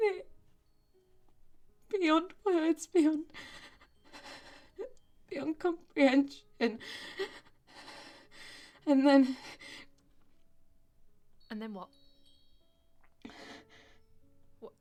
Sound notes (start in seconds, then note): 6.6 Grace crying softly; 13.2 Grace breathing heavily